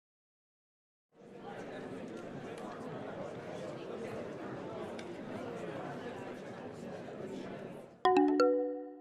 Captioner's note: people talking in the background